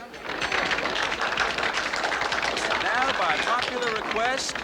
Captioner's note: all clapping